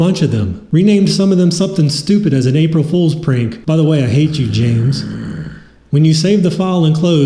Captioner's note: growl